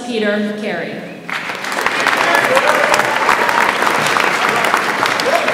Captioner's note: audience applauds